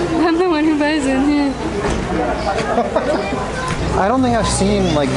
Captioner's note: laughing